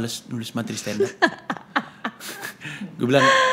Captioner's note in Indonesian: tertawa